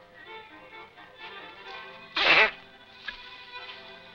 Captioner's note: sneeze